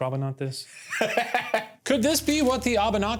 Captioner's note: laughs